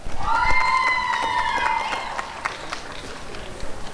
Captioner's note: applause and cheering